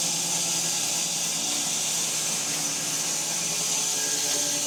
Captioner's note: saw buzzing continues